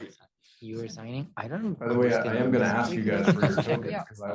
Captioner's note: laughing